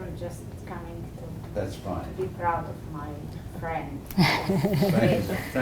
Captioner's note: laugh